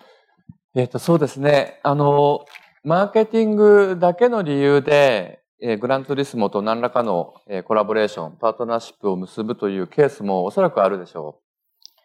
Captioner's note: speaking japanese